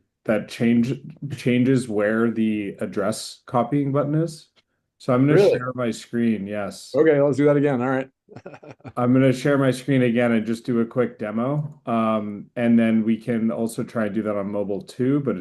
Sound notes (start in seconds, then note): 8.3 chuckles